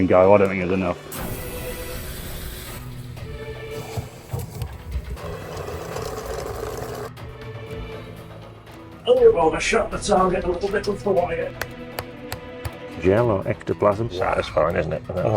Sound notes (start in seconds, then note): 1.1 water hissing; 1.6 gentle dramatic music; 4.9 wheel scraping